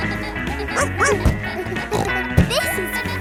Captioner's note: barks; snorts